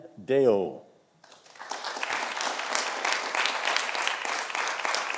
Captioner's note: audience applauding